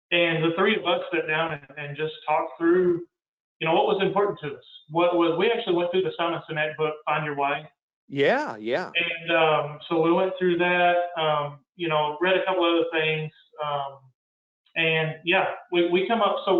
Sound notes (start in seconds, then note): 8.1 murmurs